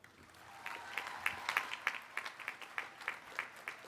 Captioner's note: applause